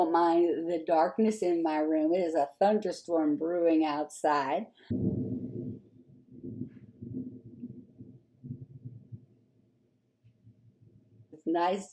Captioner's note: thunder in background